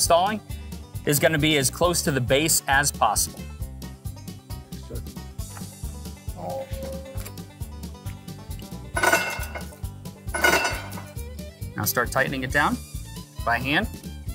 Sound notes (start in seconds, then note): 3.6 upbeat rodeo music; 10.3 metal clanking